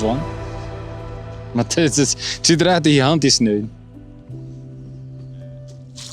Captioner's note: in dutch